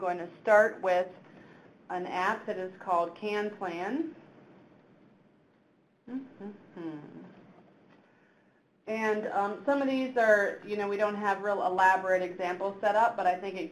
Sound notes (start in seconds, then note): 6.0 hums